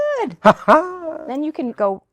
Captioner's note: laughs